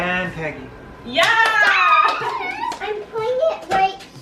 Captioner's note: cheers